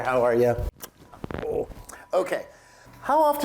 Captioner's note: lips smooching